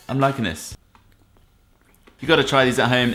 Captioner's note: chewing